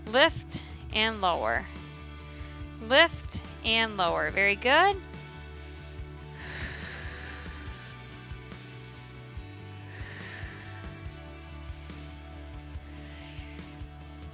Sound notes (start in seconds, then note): 6.2 exhaling; 6.2 upbeat music continues